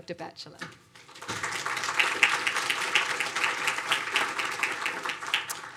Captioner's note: audience applauding